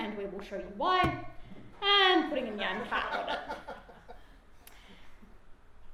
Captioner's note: loud audience laughter